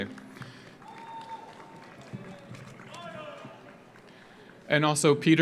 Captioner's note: audience applauds; audience cheers